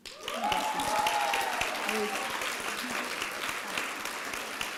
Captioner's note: applause and cheering